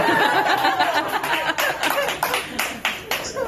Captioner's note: staff laughing